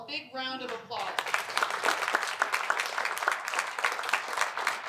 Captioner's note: applause